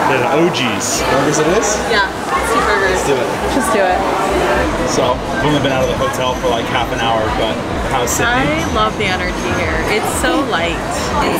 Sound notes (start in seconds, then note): 4.3 shoppers murmuring